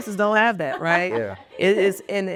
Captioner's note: laughing